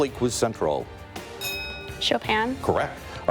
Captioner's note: bell rings